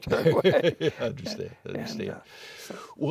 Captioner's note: laughing